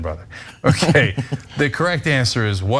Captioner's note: laugh